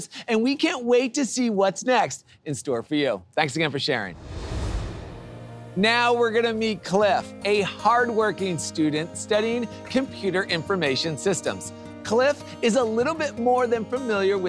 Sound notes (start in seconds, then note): 4.0 graphics whoosh; 5.5 gentle music